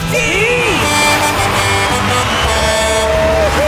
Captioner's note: truck horn honking